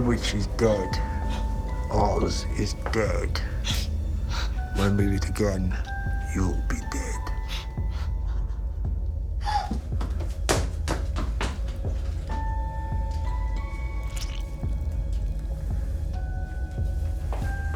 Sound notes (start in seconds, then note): 7.6 Dorothy whimpering; 8.8 feet pattering; 9.4 Dorothy gasps; 12.4 pensive music; 14.0 blood and flesh squelching; 17.5 footsteps plodding